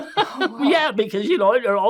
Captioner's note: laughs